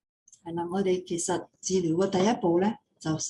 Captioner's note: non-english speech